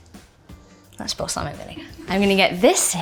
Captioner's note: crew member chuckling